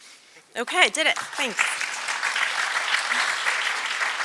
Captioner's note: applause